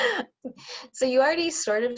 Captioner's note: laughter